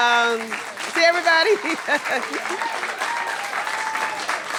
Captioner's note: cheers and applause